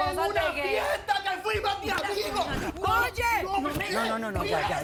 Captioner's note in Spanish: Gritando; Manotazos